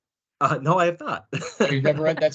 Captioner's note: laughing